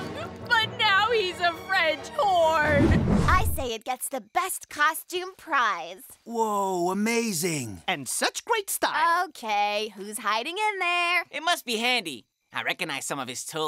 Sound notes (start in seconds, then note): none